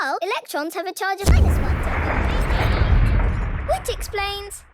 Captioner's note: distant explosion